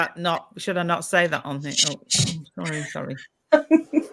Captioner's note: shhhh